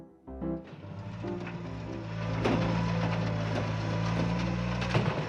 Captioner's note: machinery rumbles